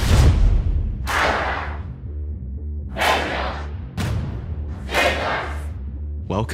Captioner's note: chanting